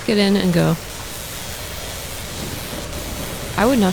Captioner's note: very loud electrical noise